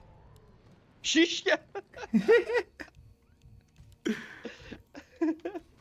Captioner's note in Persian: خنده